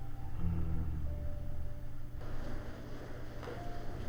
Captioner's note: David moaning